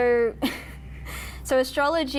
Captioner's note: laughs